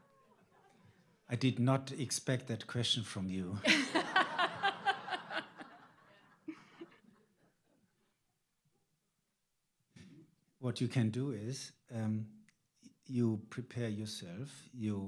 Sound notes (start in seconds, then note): 3.6 all laughing